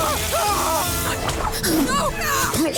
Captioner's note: soldier screaming; rats squealing